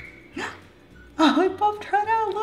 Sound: gasps

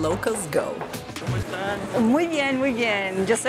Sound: in Spanish

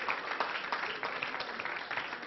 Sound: applause

